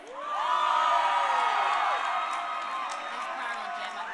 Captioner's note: crowd cheering